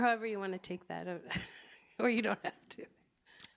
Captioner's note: chuckles